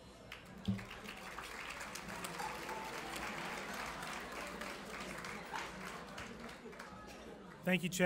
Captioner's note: clapping